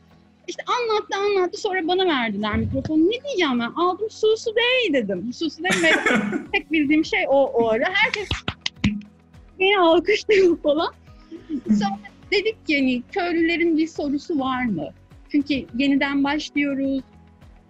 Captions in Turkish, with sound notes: İşte anlattı, sonra bana verdiler mikrofonu. Ne diyeceğim ben? Aldım "Suostei!" dedim. Suostei, merhaba demek. Tek bildiğim şey o, o ara. Herkes *alkışlar* diye alkışlıyor falan. Sonra dedik ki, hani "Köylülerin bir sorusu var mı?" Çünkü yeniden başlıyoruz.